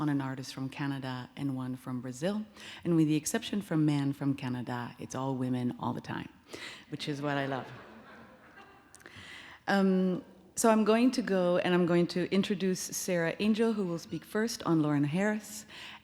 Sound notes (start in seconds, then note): 7.2 audience laughs